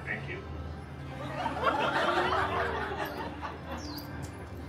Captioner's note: guests laughing